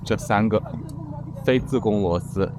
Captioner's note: sound of riding